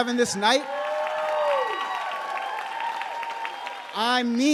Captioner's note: audience cheering and applauding